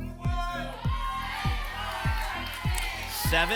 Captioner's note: audience shouting numbers